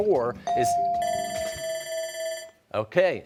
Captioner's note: rings bell, time bell ringing